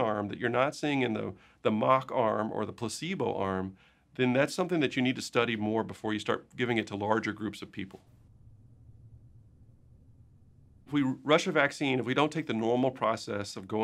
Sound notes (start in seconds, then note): 7.7 silence